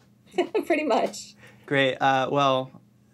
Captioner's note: laughs